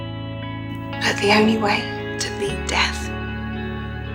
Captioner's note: voiceover